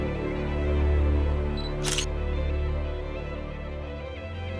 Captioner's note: camera shutter sound